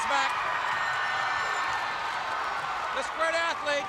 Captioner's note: crowd cheering